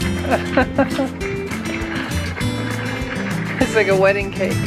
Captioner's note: laughs